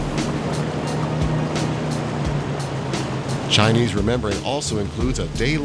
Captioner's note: revving boat engines